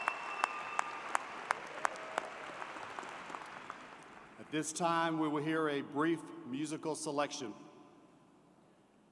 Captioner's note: cheers and Applause